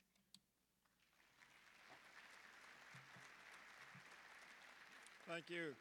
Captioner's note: applause